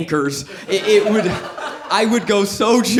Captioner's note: audience laughs